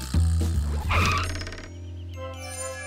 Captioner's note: screeching